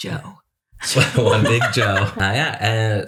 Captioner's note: laughter